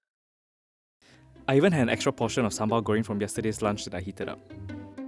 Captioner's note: voiceover